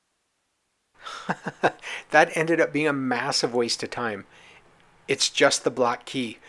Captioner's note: laughs